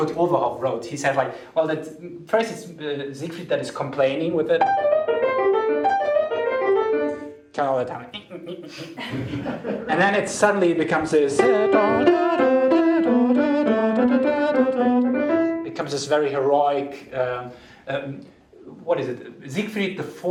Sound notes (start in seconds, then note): 8.7 sing-song